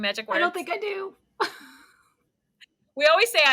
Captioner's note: chuckles